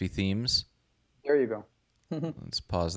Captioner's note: chuckles